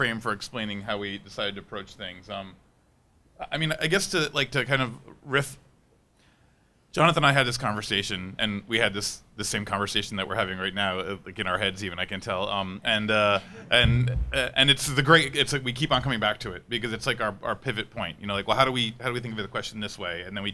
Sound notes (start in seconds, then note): 13.2 people laughing